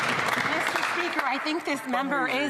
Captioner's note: some Applause